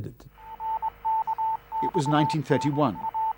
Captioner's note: morse code beeping